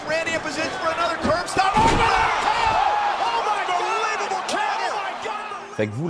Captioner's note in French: cris et applaudissements